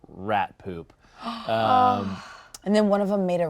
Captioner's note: all gasping